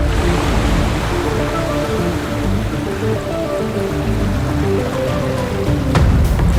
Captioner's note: suspenseful music; water cascading